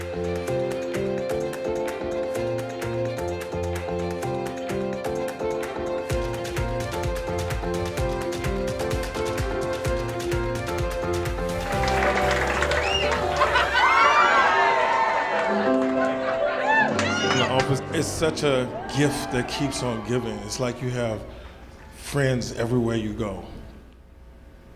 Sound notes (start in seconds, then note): 0.3 upbeat music; 11.2 audience applauding and cheering